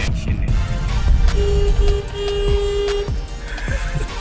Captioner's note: honking